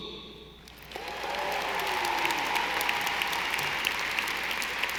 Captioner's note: audience applauding